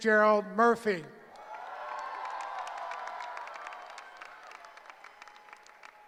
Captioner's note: cheering